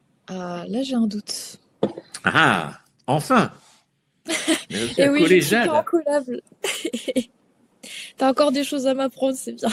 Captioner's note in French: rires